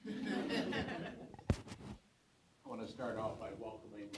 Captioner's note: audience laughs